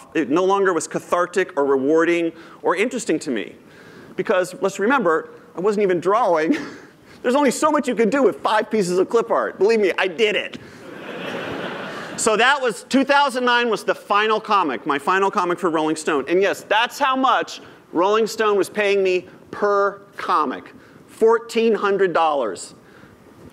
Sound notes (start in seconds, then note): 10.8 laughter